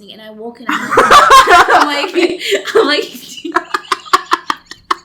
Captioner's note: giggles; laugh; laughs